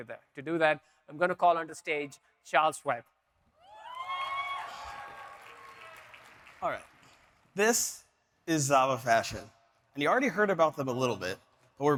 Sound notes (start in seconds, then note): 3.7 audience cheering